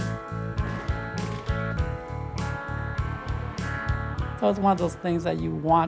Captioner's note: fireworks booming